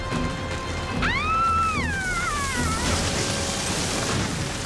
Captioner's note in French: Mélissa crie; bruit d'arbre